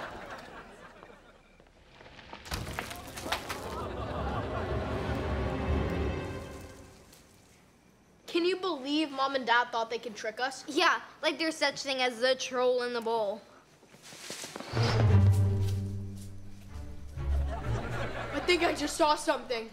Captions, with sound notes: Can you believe Mom and Dad thought they could trick us? Yeah, like there's such thing as the troll in the bowl. [bush rustling] I think I just saw something.